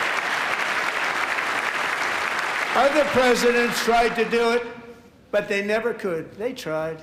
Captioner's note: applause